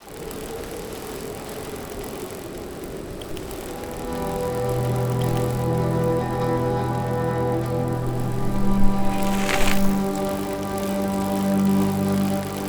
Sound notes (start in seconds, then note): 0.1 freewheel whirs; 3.5 emotional orchestral music